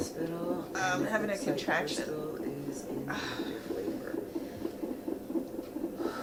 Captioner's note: sighing